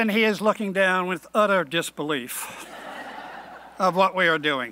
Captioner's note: laughing